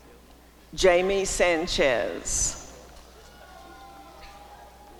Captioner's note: applause and cheering